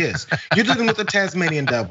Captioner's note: laugh